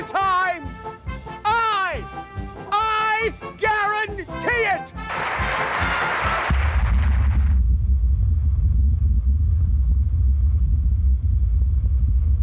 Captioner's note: huge atomic blast